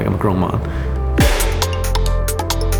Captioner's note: clapper bangs loudly